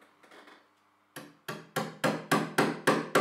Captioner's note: hammering